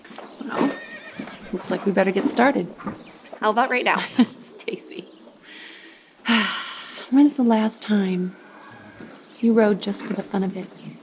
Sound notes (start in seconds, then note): 4.0 chuckles; 6.2 sighs